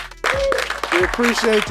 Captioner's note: group cheering